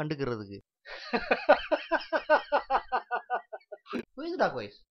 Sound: laughing

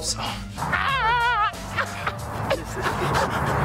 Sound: shouting

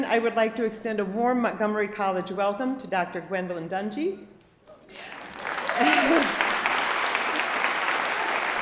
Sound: applause

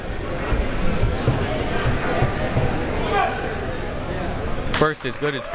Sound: crowd members talking

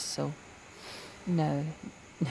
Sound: breathes

